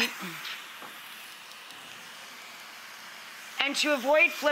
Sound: food sizzling

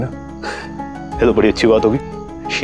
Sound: Guri laughs

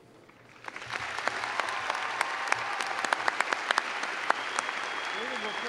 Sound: cheers and clapping

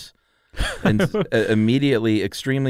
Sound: laughs

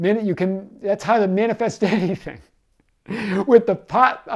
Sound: laughing

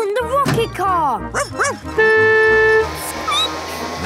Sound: honking; barking; squeaking

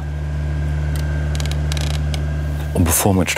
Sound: creaking

